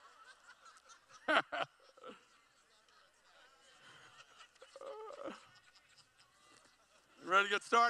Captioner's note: laughs